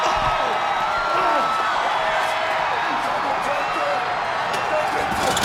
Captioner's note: person groaning